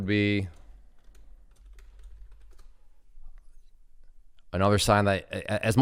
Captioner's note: keyboard clicking